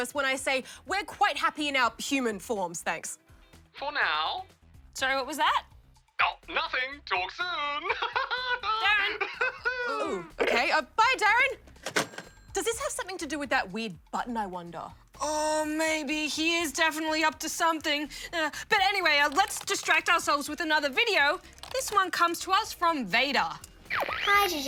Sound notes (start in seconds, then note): 7.8 laughs